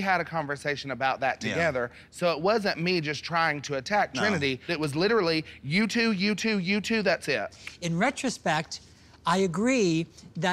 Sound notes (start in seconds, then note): none